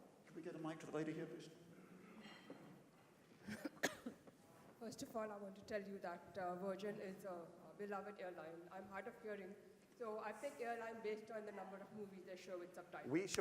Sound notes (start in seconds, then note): 3.4 cough